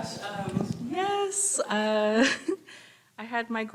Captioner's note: laughs